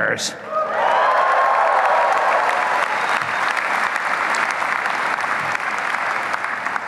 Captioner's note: applause and cheering